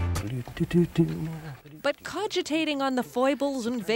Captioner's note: man hums